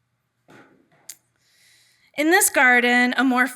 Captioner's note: none